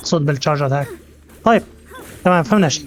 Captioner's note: grunts